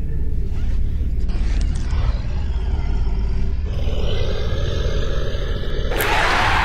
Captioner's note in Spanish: Gruñido; Aullido de la bestia